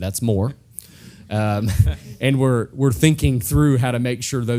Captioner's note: laugh